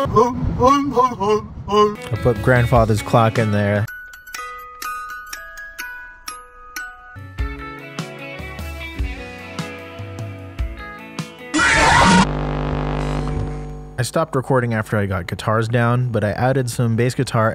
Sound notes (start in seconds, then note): 11.4 FNAF 2 jumpscare sound; 11.5 static